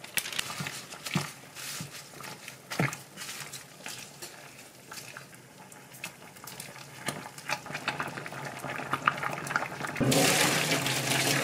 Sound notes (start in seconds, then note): 7.6 boiling